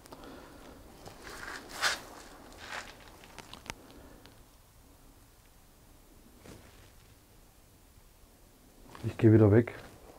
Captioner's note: wind in the background